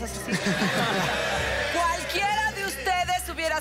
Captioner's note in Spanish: Risas